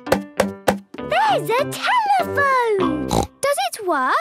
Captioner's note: snorts